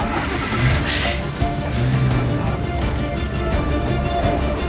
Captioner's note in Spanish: Gritos; Ruido del vehículo